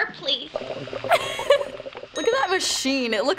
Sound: gurgling noise; giggles; ding

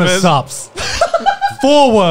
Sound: laughing

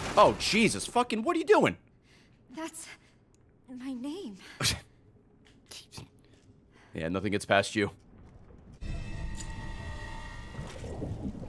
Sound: laughs

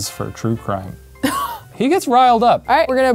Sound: scoffs

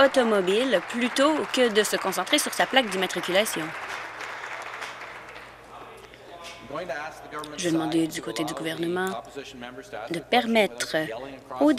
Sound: applause

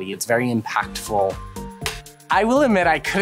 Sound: clap

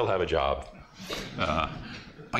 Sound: laughter

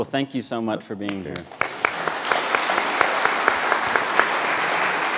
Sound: audience applauds

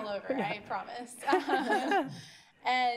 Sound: laughter

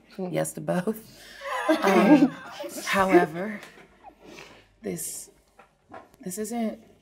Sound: all laughing

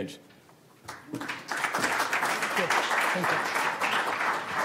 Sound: crowd applauds

